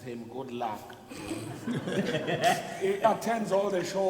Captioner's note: people laugh